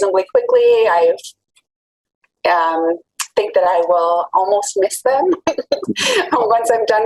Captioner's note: laughs